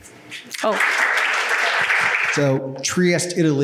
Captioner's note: audience applauds